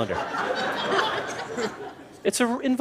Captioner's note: laughter